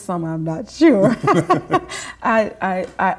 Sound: laughing

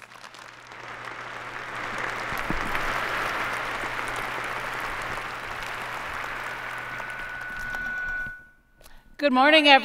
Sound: applause

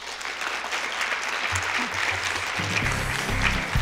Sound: applause

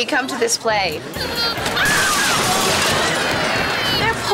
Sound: screaming, shattering

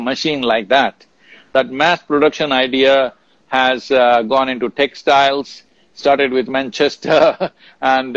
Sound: laughs

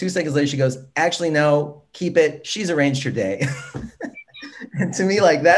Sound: laughs

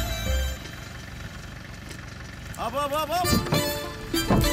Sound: car Sound

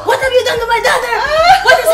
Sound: laughs

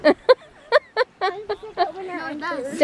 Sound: laughs

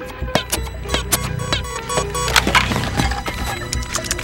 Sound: alarm Sound

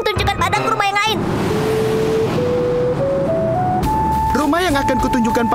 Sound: car humming noise

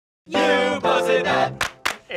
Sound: clap Clap

